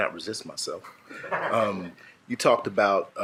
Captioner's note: shared laughing